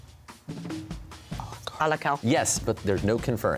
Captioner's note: whispering